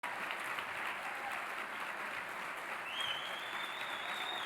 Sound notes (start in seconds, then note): 0.0 audience applauding